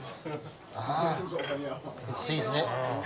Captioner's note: chef speaking Japanese